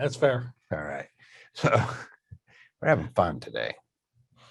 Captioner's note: chuckles